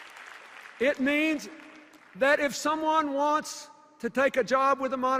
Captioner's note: cheers and applause